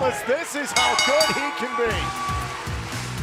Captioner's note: bell ringing